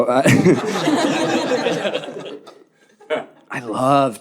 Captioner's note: audience laughing